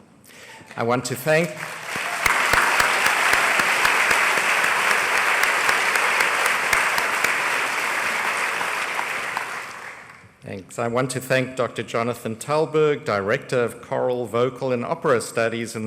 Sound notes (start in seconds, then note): 1.3 applause